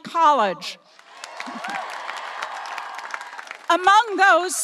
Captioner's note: audience applauding and cheering